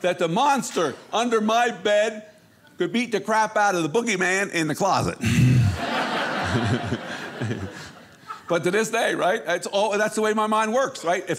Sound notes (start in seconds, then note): 5.4 audience laughing